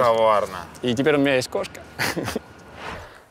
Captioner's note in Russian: смеётся